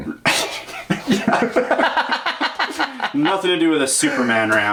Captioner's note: laughs